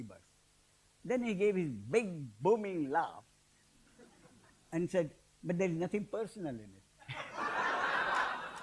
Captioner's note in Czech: smích